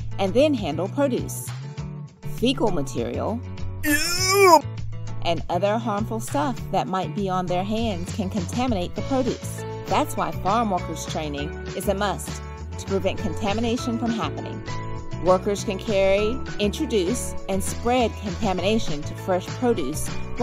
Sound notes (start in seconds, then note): 3.8 groans